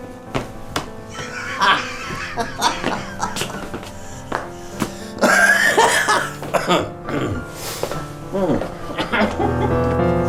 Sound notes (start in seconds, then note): 1.1 don wilkinson laughs drunkenly